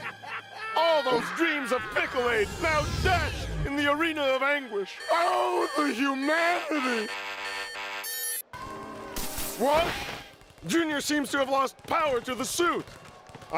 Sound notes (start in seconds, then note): 4.9 alarm beeping